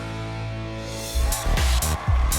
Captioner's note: cheering